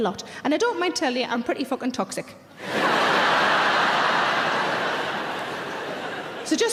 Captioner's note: audience laughing loudly